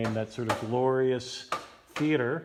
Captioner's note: bang bang